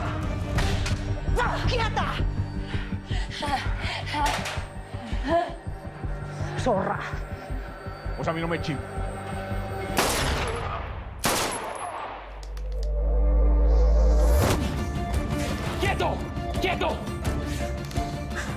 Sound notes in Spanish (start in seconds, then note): 9.9 Disparos